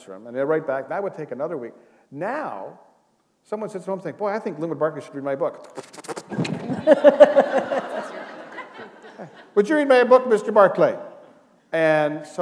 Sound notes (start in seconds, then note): 6.3 laughter